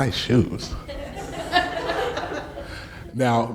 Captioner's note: laughing